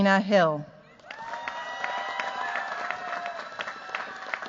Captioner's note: cheers, applause